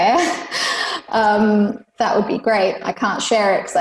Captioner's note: laughs